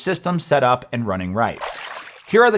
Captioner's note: water splashing